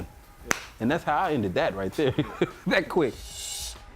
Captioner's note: clap